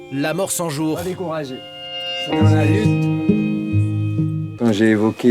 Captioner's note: French spoken audio